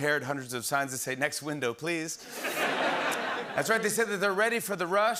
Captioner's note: laughter